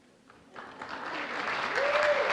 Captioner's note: applause